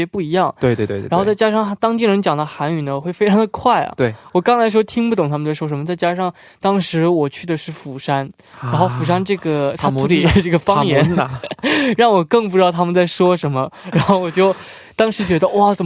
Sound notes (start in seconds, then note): 12.9 in Busan dialect